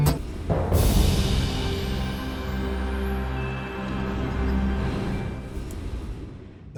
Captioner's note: soft music; wind whooshing